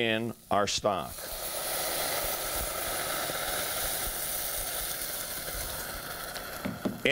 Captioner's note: boiling